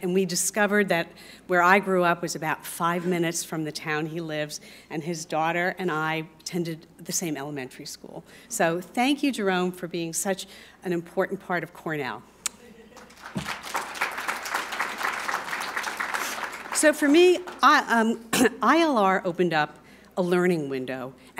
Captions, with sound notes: and we discovered that where I grew up was about five minutes from the town he lives, and his daughter and I attended the same elementary school. So thank you, Jerome, for being such an important part of Cornell. [APPLAUSE] So for me, ILR opened up a learning window,